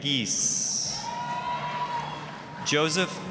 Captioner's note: applause, cheering